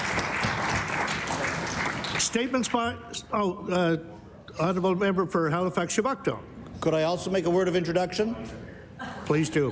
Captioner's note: applause